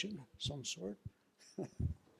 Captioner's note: laugh